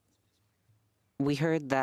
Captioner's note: speaking French